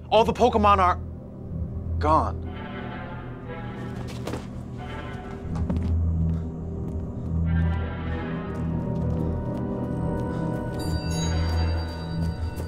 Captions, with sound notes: All of the Pokemon are gone. (menacing music) (footsteps tapping)